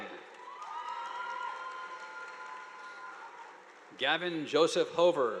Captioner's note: audience applauding